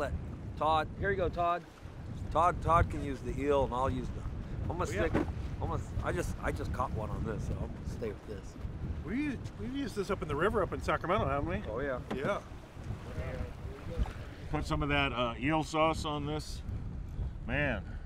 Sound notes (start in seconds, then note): none